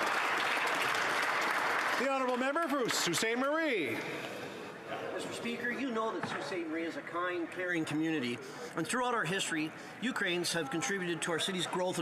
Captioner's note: some Applause